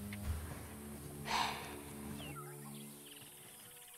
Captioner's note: Sighs